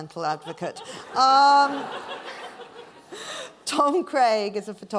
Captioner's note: laughing